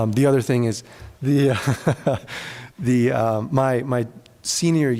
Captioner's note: chuckles